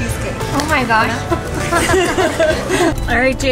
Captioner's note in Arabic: يضحك